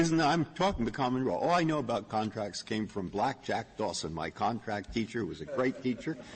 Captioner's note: laughter